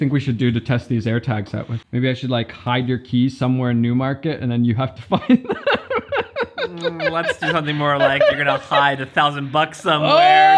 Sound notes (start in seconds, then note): 5.0 laughs